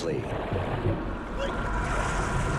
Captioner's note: Marra grunts